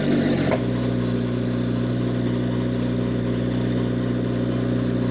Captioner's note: engine purring